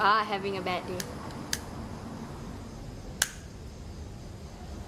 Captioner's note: lighter sparking